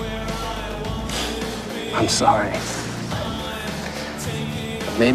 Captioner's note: sighs